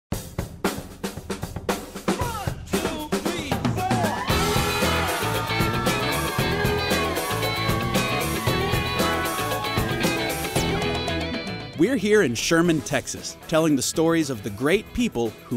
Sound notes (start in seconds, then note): 0.2 upbeat music; 3.7 group cheering